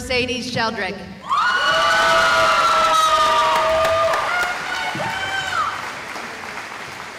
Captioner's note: cheering